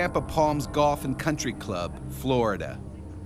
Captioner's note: voiceover